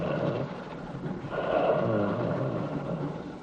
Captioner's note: creature growling